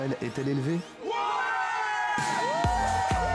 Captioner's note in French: en choeur